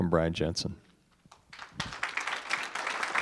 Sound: applause

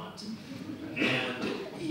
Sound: audience chuckles

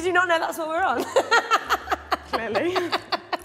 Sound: woman 2 laughing

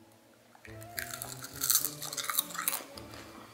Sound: munches

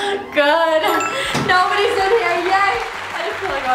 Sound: door creaking; bell chiming

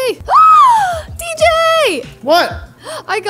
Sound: gasps

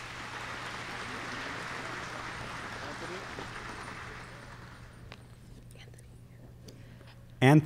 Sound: applause

